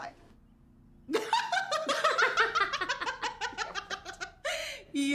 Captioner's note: laughing